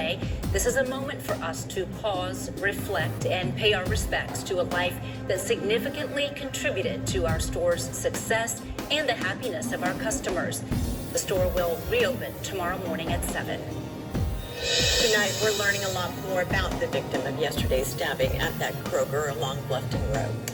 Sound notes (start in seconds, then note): 14.6 on TV